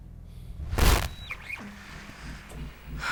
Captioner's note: static; exhales deeply